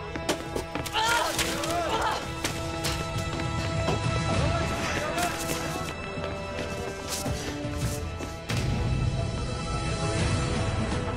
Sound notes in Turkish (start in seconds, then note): 0.8 Koşma Sesleri; 0.9 Bağırma